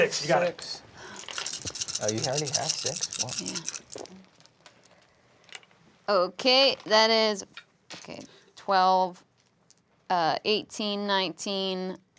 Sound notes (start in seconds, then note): 1.1 dice rattling